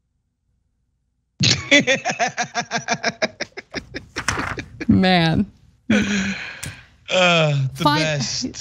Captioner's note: laugh